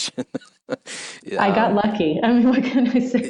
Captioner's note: laughs